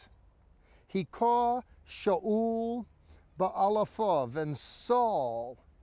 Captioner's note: speaking in Hebrew